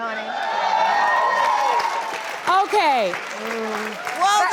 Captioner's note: audience cheering